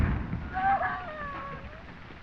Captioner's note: screams